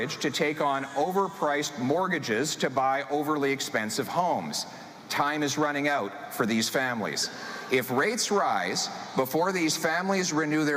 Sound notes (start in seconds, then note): none